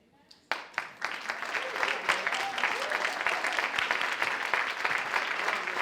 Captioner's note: audience applauds